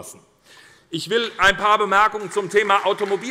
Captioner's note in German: Beifall bei der SPD